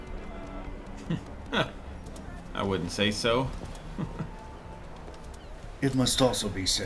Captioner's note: scoffs; chuckles